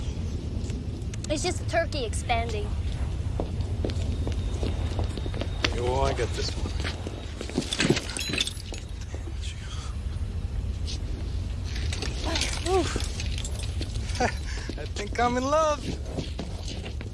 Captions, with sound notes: It's just turkey expanding. Yeah, well, I got this one. [WHISPERING] There you go. [SIGHS] [CHUCKLES] I think I'm in love.